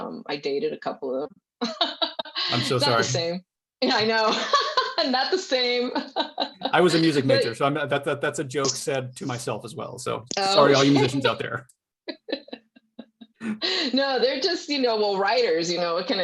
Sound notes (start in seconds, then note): 1.6 chuckles; 5.8 laughs; 12.1 laughs